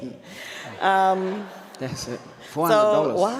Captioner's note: audience laughs